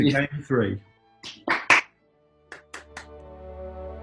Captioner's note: applauding